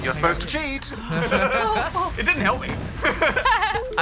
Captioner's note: all laugh